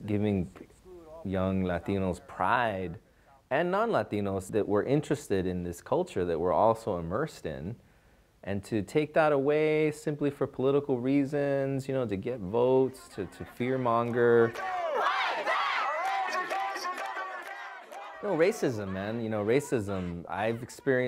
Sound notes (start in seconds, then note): 12.6 crowd; 13.7 shouting; 16.4 shouting